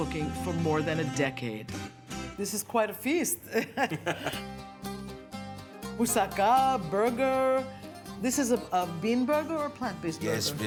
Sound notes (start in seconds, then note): 3.4 laughter